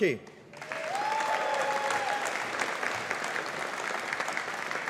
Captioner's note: audience applauding